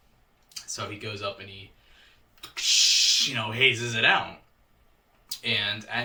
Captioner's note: hissing